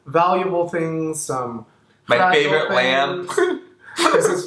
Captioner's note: laughs